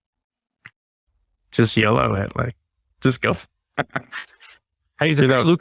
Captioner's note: laughing